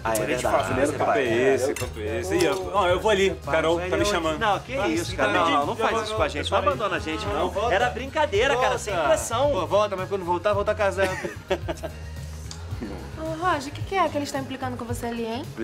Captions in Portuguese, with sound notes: - É verdade, primeiro passo. - Que papo é esse? Olha, eu vou ali. A Carol está me chamando. Não, que isso, não faz isso com a gente. - Não abandona a gente, não. - Volta, volta! - Era brincadeira, sem pressão! - Volta, mas quando voltar, volta casado! (RISOS) Roger, o que eles estão implicando com você ali, hein?